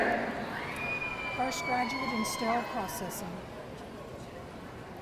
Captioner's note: audience cheering